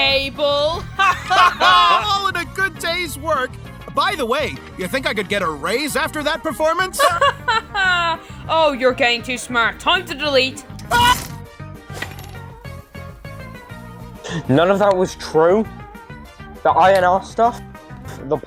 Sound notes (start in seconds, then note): 0.7 both laugh; 7.0 laughs